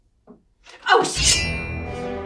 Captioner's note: shing